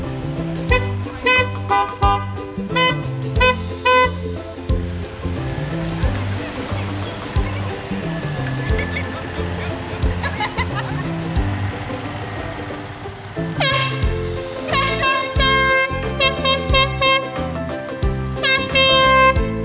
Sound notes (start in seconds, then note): 8.4 people laugh; 13.3 horn honks